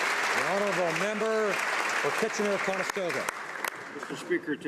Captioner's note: applause